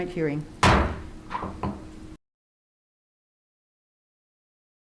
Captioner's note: gavel banging